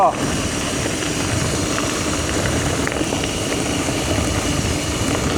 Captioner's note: wind